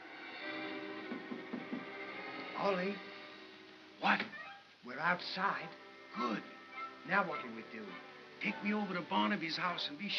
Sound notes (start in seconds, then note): 1.1 tapping on box